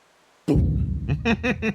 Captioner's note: thump; chuckle